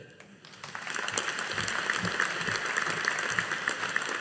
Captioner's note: audience applauding